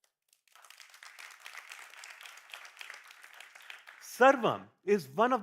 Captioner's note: applause